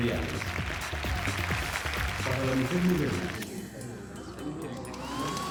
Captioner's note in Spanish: Aplausos